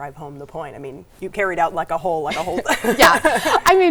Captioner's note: laughs